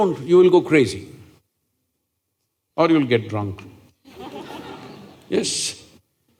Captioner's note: laughter